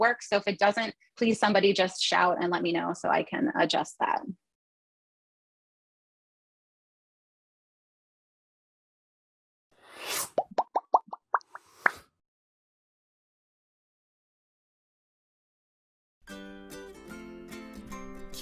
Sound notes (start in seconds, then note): 10.3 bubbles popping; 16.3 bright music